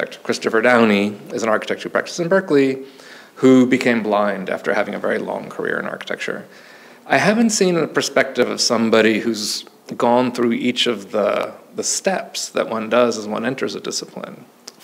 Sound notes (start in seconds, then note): none